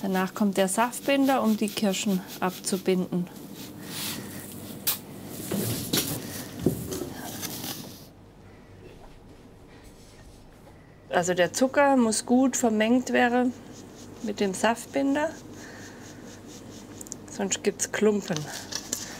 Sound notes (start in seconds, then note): 4.6 rustling